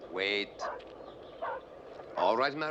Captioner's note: dogs barking